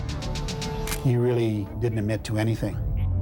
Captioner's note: camera shutter click